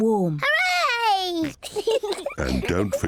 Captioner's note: both giggle